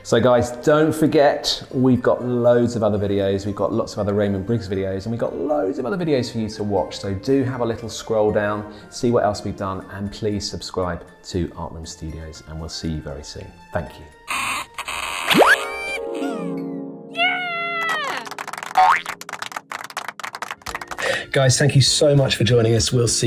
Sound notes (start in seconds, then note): 14.3 door creaking; 14.3 cartoon popping; 17.1 cartoon cheering; 17.7 hands clapping; 18.8 cartoon bouncing